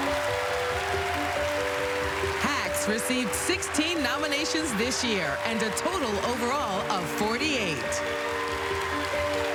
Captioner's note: applause